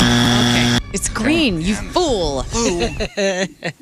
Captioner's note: buzzer; laughing